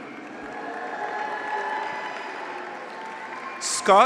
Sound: graduates cheer

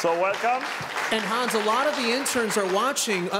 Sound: applause

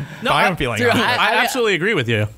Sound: laughter

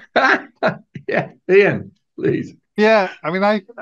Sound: laughs

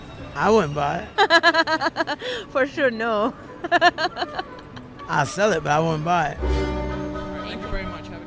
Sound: laughs

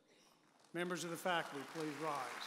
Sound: audience applauds

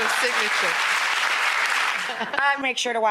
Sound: audience applause

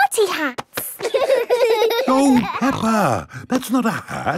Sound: laughing

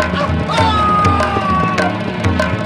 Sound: grunts

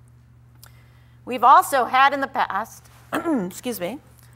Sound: clears throat

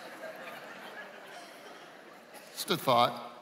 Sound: laughing

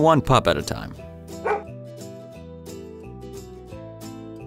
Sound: barks

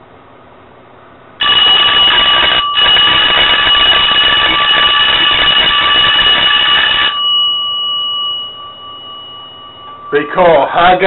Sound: bell ringing

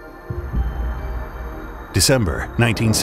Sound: air whooshing

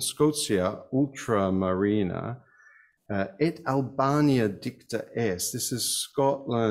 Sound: speaks in foreign language

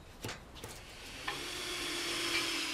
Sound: drilling noises

